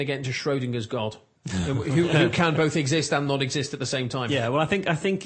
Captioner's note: laugh